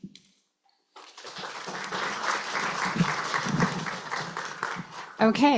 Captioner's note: applause